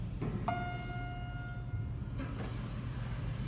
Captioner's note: elevator Chimes